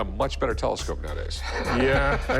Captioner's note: laughs